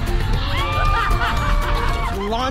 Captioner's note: screaming & laughing